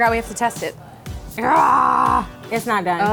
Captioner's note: grunts